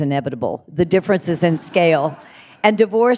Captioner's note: audience laughing